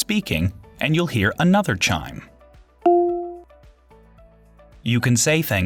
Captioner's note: device Chimes